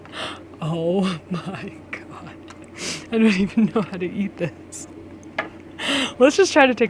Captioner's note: laughs